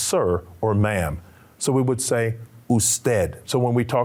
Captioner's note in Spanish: Señor hablando en idioma extranjero